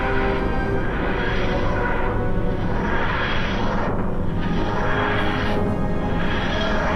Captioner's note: whooshing